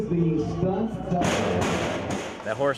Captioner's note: horse bangs on gate